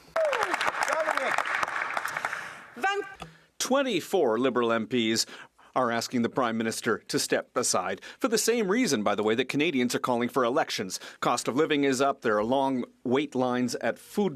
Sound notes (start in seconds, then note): 3.6 some Applause